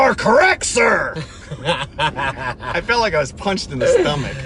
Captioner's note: laughing